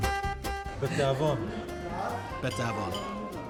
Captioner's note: speaking hebrew